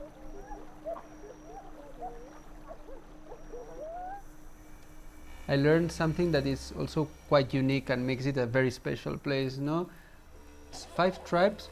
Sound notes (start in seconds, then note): 0.7 indistinct laughter; 1.9 crickets